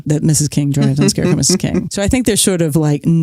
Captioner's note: chuckles